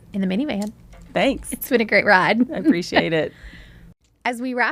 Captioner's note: laughs